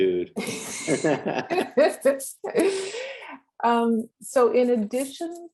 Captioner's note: both laughing